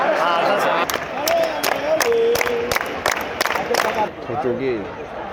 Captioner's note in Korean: 물개박수 시전